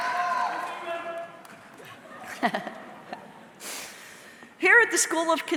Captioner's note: audience member shouting indistinctly